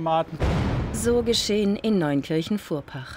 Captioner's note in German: Knall